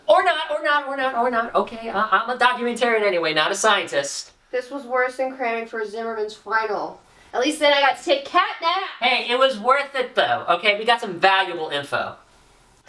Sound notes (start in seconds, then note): 6.9 increases to yelling